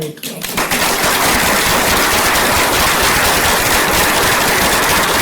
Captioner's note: applause